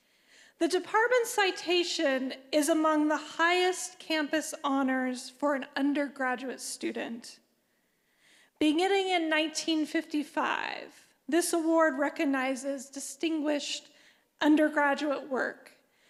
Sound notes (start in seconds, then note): none